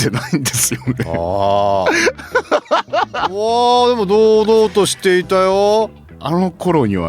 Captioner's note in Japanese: 笑い